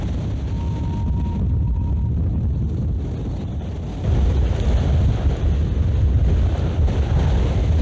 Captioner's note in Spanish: Mucho viento